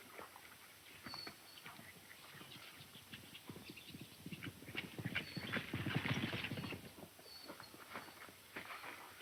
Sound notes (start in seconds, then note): 1.0 birds singing; 4.4 hoof beats getting louder